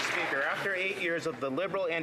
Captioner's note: some Applause